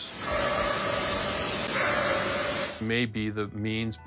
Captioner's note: eerie barking